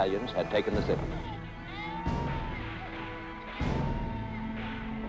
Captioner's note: children crying